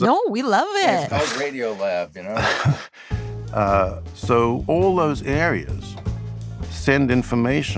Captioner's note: laughs